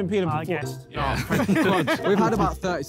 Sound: laughter

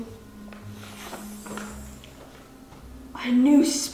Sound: sparkling

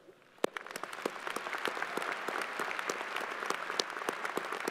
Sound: crowd applauding

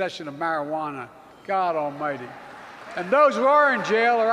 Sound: applause

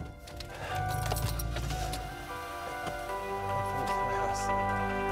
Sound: car revving; upbeat music

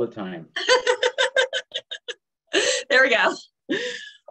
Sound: laughs

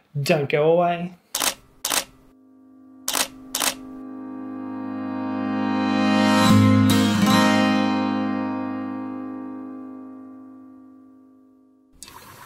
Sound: camera shutter clicks and music swells

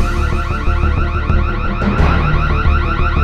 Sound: siren

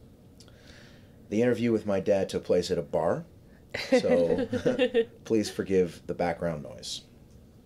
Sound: laughs

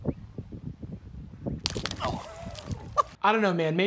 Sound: splash of liquid

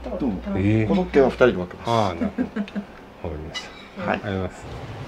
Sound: laughs

